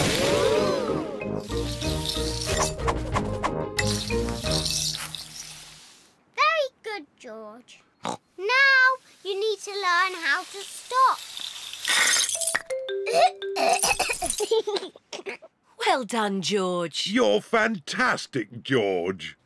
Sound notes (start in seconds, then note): 7.6 snorts; 13.0 splutters; 13.9 giggles